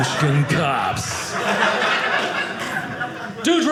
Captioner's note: audience laughing